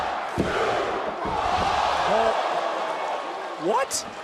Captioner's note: crowd shouts "one, two"